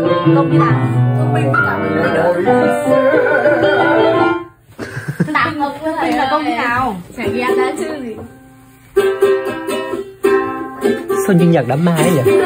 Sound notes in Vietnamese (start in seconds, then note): 1.2 rống lên; 12.2 cười